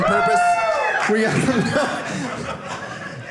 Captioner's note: audience laughing